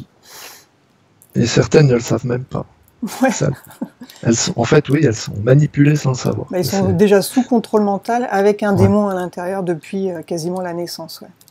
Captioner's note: laughs